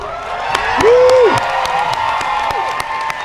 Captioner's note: applause